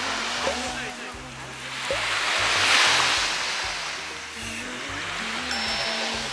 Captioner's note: hum